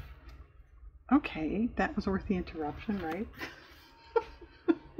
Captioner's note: laughs